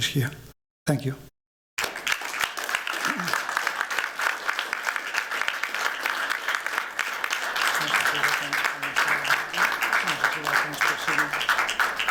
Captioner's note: applause